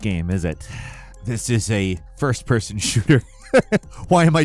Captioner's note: laughs